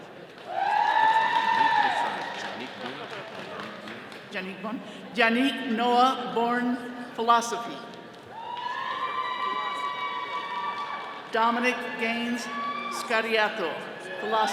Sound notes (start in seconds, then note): 0.5 all cheering; 8.3 attendees cheering